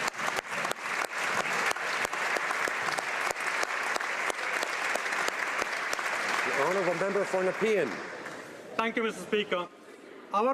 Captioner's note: applause